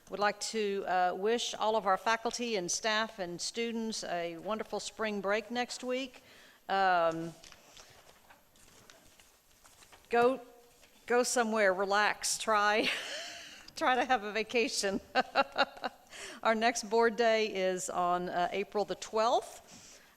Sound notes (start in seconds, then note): 14.8 laughing